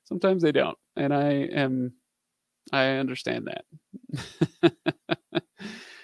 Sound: laughing

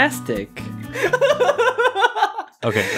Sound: laughing

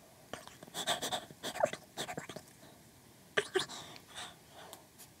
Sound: pants

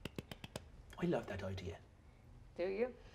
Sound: clapping

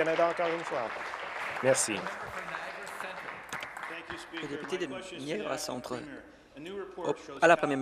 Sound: applause

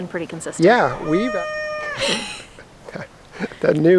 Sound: young rooster attempts to crow

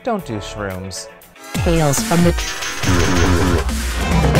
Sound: voiceover

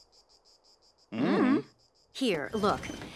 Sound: both mumble noncommittally

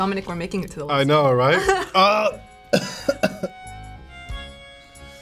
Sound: coughs

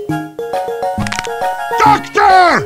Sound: unusual neck moving noise

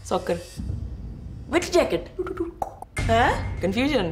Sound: clicking tongue

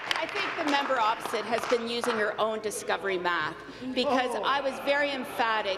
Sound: applause

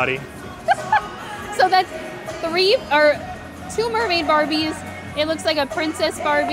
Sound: laughs

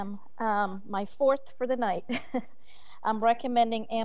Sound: chuckles

